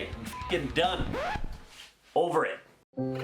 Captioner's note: record scratch; sad music